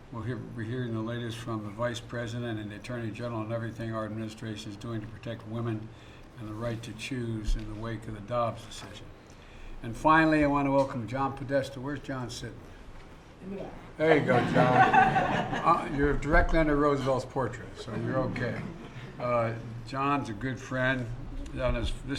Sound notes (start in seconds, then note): 14.2 laughter